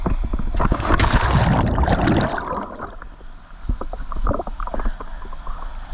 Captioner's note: water splashes on camera